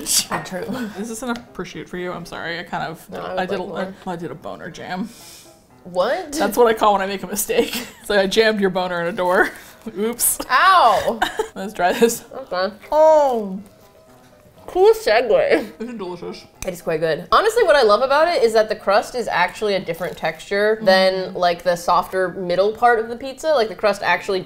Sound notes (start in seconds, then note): 0.7 laughs; 10.8 laughs; 11.6 gives muffled affirmation